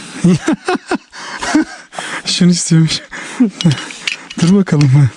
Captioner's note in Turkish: kahkaha